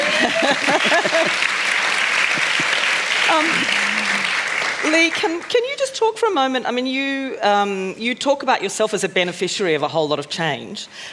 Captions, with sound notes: [ Applause ] Lee, can you just talk for a moment? I mean you talk about yourself as a beneficiary of a whole lot of change.